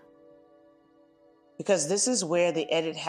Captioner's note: pause